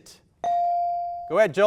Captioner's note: buzzer dings